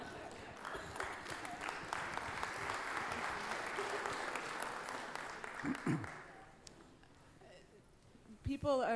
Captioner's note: applause